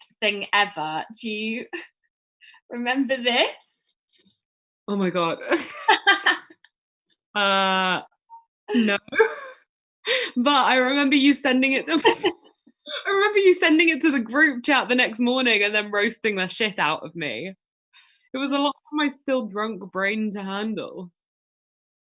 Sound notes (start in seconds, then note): 11.9 laughter